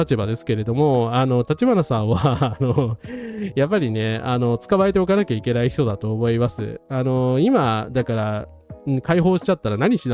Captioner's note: laugh